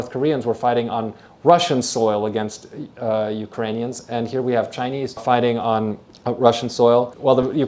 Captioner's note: Ukrainian